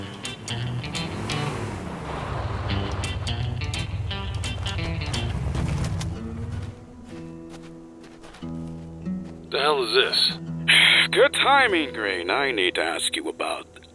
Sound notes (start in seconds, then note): 5.4 engine stops; 10.8 sigh